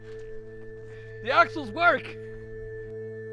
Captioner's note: laughs